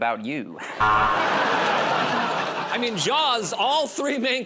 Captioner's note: buzzer